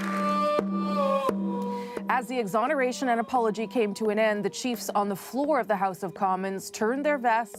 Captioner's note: applause